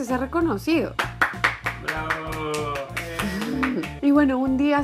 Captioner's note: applauds